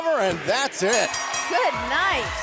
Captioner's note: bell ringing